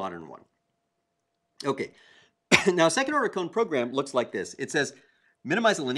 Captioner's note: cough